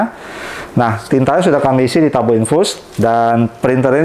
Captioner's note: inhale